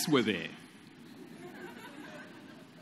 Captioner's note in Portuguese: Risos